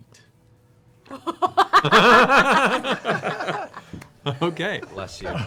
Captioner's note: laughter